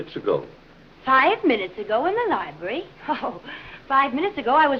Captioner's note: laughs